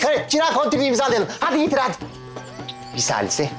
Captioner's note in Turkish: Telefon titreme sesi